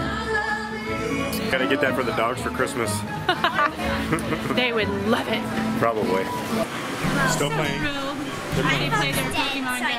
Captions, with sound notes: - Can I get that for the dogs for Christmas? (laughing) - They would love it. - Probably. - Hello. - Still playing? - My phone is dead-- - Are they playing--